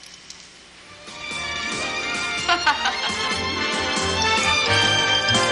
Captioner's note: she laughs